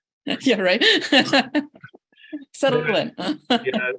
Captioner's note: laughs